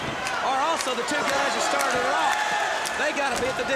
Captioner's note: crowd chatter